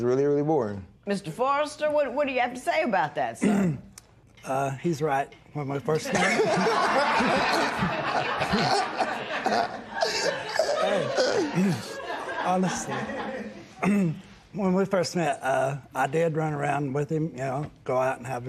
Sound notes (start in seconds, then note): 6.0 laughter